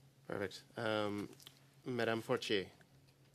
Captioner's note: speaking French